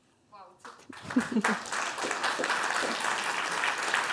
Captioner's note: Aplodeja